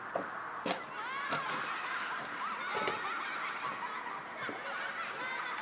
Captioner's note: children laughing